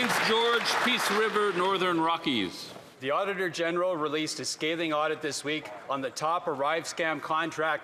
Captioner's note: some Applause